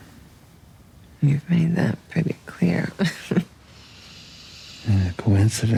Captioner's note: laughs